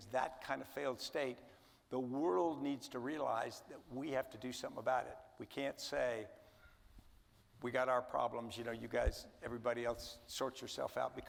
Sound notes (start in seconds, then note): none